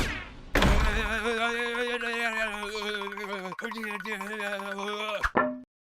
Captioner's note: frantic running sounds